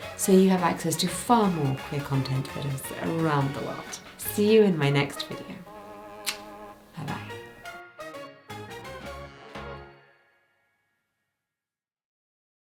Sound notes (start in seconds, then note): 6.2 kissing; 7.8 lively upbeat music